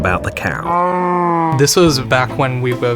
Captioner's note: cow sound effect